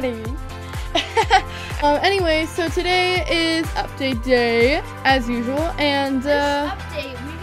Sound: laugh

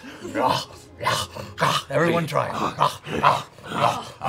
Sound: growls

